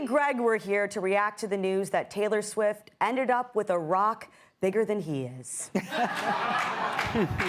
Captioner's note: laughter